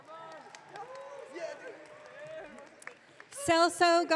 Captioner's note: audience cheering